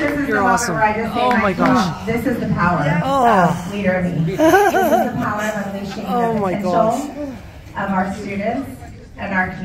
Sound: applause

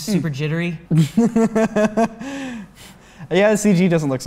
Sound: chuckling

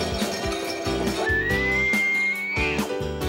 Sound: bells tinkling; elk calling; upbeat music

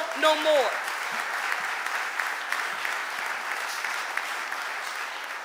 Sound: audience applauding

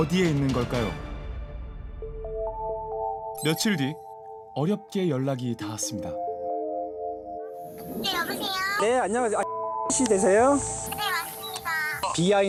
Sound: voiceover

